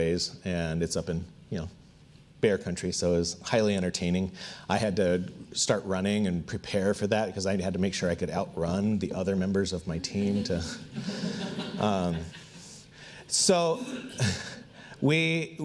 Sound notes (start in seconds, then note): 10.0 audience laughs